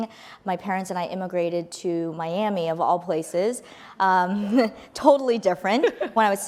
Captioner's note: laughs; laughs